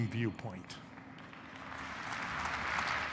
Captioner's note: audience applauding